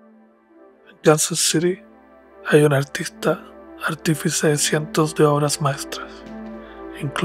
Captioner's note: gentle music; narrator speaks Spanish